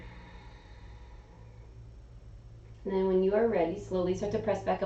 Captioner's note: exhaling